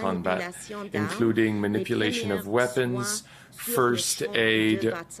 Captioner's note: voice of interpreter